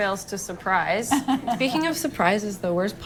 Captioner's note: laughing